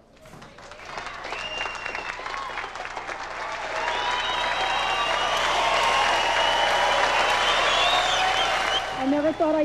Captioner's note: applause